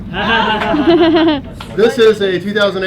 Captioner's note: laughing loudly